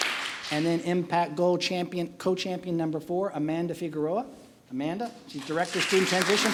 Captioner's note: applause; applause